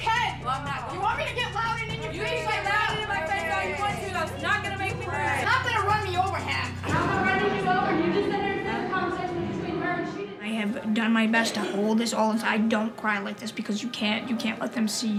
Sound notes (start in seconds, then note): 7.7 yelling